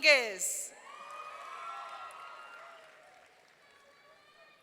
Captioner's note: audience cheering